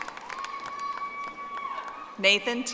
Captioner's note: audience applauding